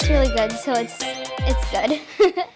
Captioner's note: laughs